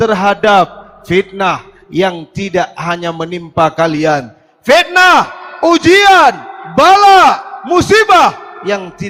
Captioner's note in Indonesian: berteriak